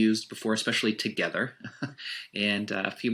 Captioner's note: laughs